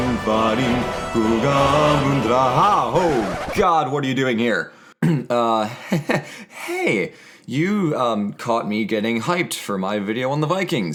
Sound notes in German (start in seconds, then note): 5.0 Hustet verlegen